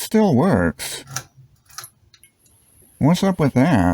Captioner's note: fluorescent light sound